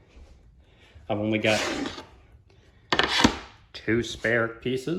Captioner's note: board Shuffling